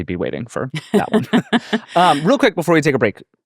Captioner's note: laughing